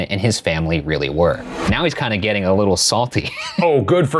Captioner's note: laughs